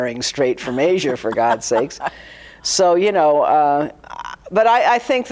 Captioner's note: laughing